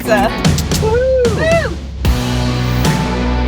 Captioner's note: both cheer; mid-tempo country music